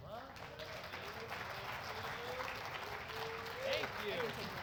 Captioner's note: applause